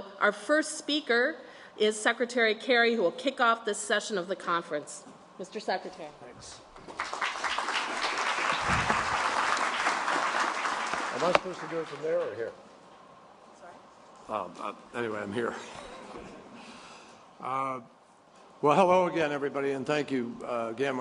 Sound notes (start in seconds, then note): 6.8 applause; 15.5 laughter